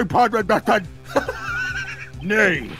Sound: wheezing

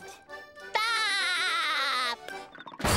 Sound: laughing

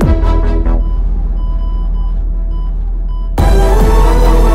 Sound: beeping

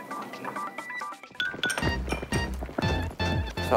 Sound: boiling

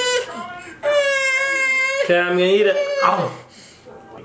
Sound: crying

